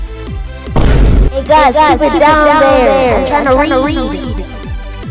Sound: echo

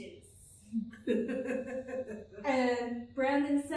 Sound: laughter

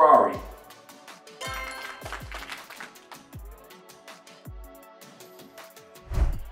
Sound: applause sound effect plays

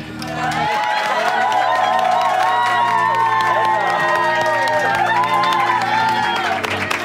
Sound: cheering & applause

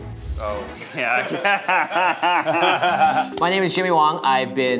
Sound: laughing

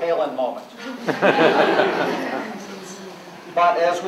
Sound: laughter

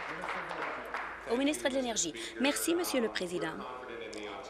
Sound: applause

